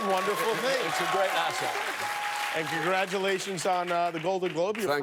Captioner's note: cheers and applause